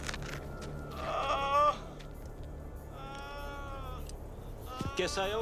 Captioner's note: drug runners groaning